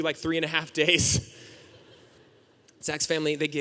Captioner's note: audience laughing